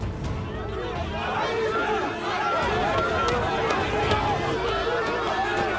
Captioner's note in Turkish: Yuhalama sesleri